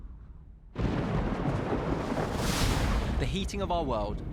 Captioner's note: thunder booming